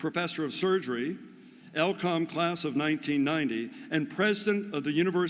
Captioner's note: none